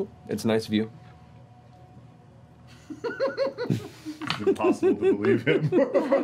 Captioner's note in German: Gelächter